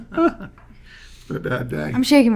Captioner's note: laughing